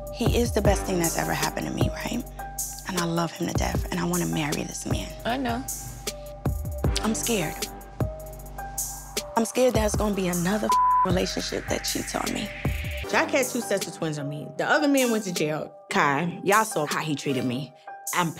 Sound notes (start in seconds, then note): 10.6 beep